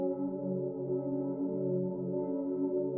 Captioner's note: none